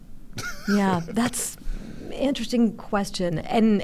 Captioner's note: chuckles